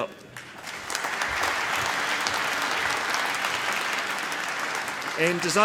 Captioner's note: applause